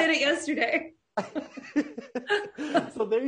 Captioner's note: laughing softly